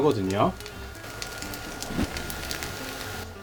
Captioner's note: sizzle sizzle